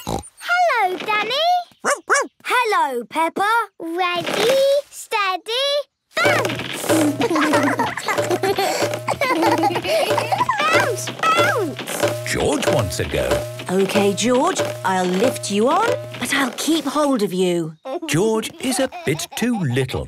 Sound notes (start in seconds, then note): 0.0 snorts; 1.8 barks; 7.0 both laugh